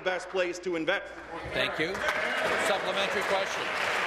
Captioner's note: applause